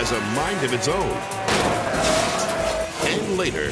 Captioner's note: motorcycle revs and bangs